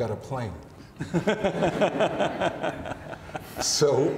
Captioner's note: laughing